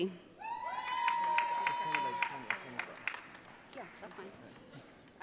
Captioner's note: audience cheering